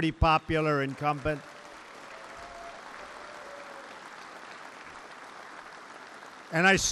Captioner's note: applause